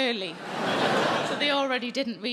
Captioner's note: audience laughing